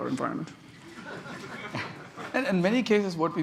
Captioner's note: laughter